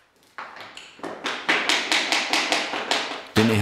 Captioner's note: knock